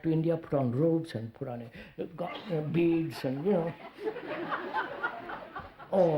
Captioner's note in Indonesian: Tertawa